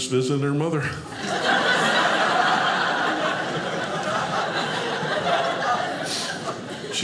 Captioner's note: audience laughing